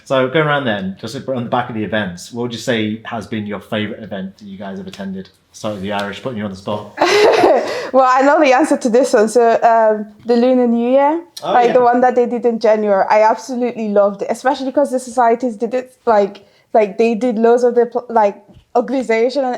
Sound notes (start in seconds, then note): 7.0 laughs